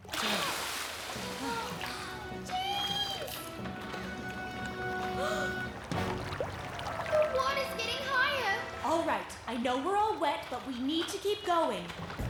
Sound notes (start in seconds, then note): 0.1 both Exhale; 5.2 gasp